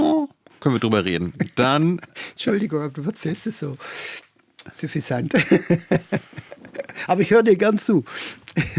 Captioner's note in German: gelächter